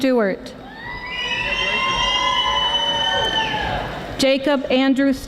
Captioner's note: audience applauding